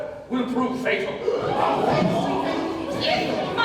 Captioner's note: ensemble gasps